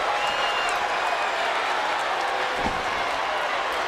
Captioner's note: crowd cheers